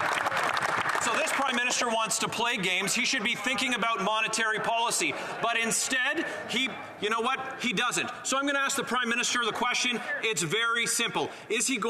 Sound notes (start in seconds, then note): 1.5 cheering and Applause